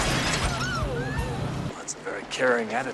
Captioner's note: glass crashing; people gasping